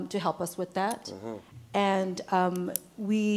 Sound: man affirming

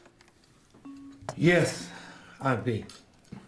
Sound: hesitantly

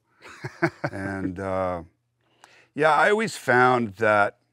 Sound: laughing

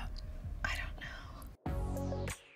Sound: whispering; funky music

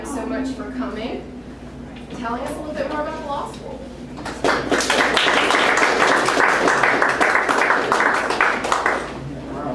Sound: applause

